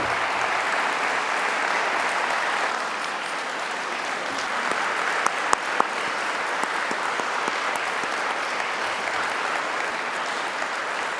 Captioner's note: applause